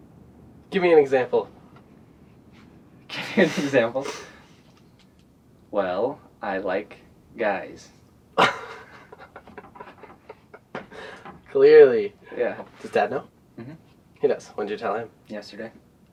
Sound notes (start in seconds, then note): 8.4 laughs